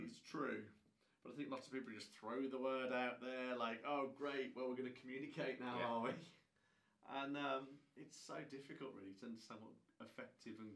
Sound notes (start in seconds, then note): 6.2 laughing